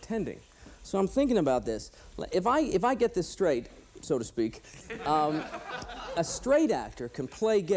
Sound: laughter

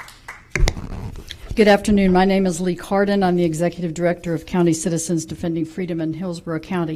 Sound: applause

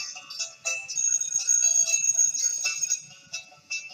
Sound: school bell rings

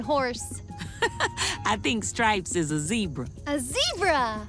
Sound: chuckles

